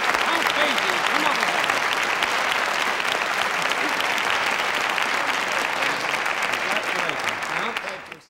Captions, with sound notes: Count Basie, come over here (audience applauding) Congratulations, Count - Thank you, sir